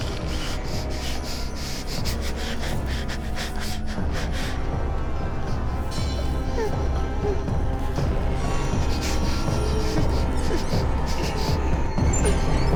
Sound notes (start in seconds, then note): 4.8 tense music continues; 8.6 Claire whimpering